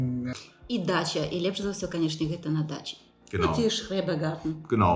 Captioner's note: German